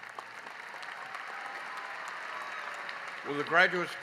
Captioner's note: applause